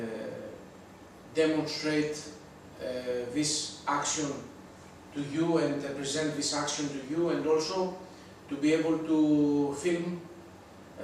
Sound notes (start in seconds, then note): none